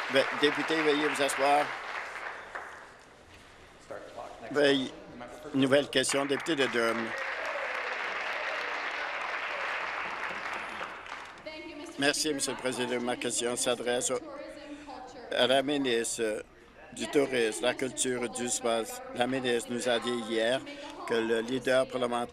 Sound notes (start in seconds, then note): 0.0 some Applause; 10.0 some Applause